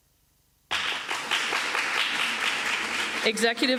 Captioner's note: applause